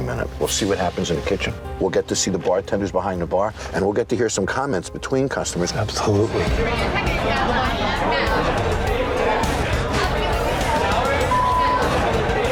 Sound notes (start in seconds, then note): 6.3 customers chattering loudly; 11.2 beep